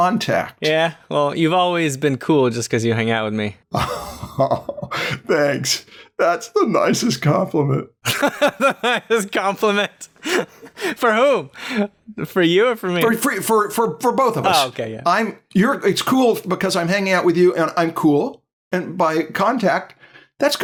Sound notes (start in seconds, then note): 3.7 chuckles; 8.0 laughter